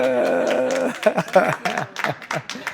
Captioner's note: applause